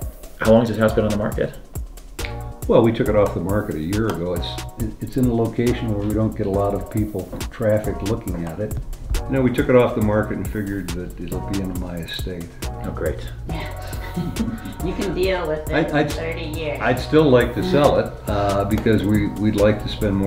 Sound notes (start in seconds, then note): 14.0 laughter